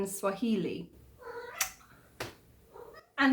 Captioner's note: meow